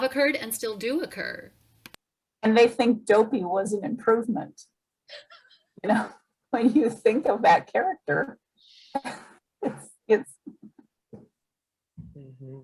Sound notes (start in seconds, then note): 5.1 chuckles; 9.5 laughs